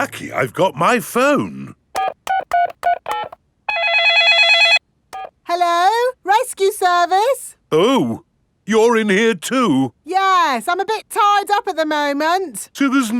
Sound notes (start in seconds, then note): 1.9 dialing; 3.6 cell phone ringing